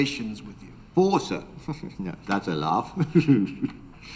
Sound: chuckles

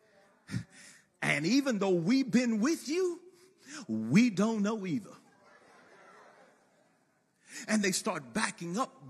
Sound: laughter

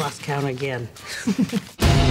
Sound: laughing

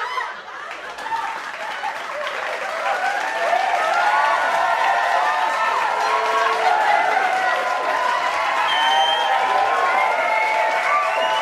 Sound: cheering and applauding

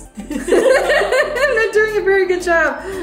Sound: laughs

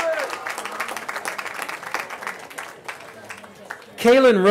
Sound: cheering

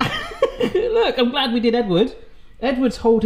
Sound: laughs

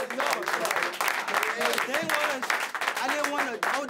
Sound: applause

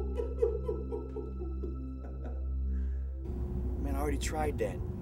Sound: laughing

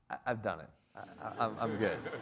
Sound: everybody laughs

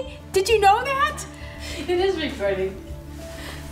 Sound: laughing

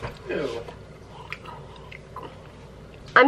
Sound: chewing

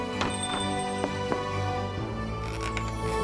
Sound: door dings

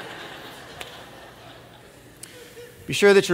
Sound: laughter

